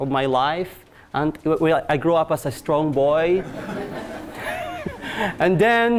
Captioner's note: class laughing